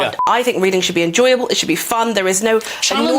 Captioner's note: interrupts